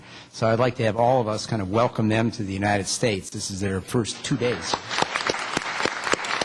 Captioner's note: applause